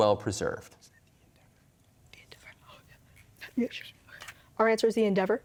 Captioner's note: team whispering